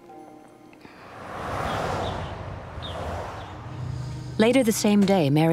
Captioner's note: car Driving